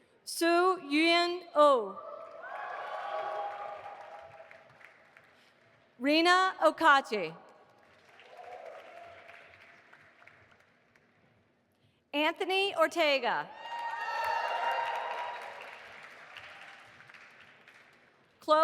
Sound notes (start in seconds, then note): 2.2 audience applauding; 7.8 audience applauding; 13.6 audience applauding and cheering